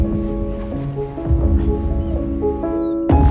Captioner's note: loud booms